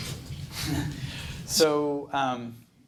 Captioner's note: laughs